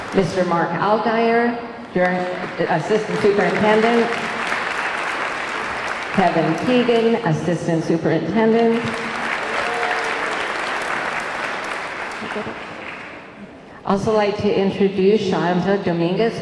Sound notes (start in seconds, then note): 3.0 audience cheering; 3.9 audience clapping; 8.5 audience clapping; 8.8 audience cheering